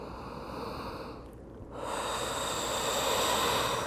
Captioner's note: breathing